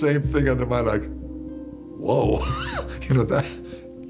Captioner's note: laughs